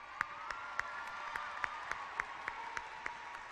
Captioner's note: clapping